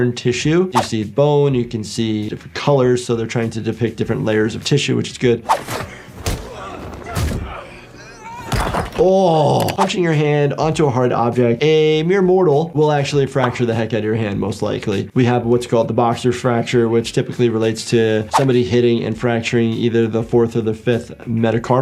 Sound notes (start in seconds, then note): 5.4 air whooshing; 5.9 victim grunting; 7.8 aggressor grunting